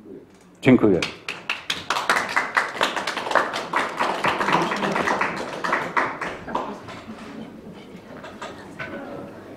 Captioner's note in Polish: Aplauz